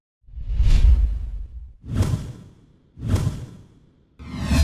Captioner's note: intense swooshing